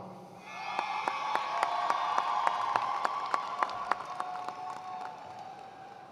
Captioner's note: attendees cheering and applauding